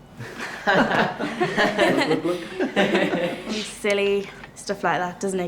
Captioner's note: chuckles